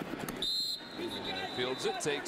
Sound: whistle

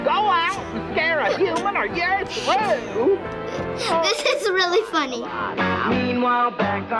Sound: laughs

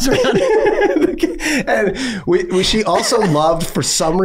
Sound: all laughing

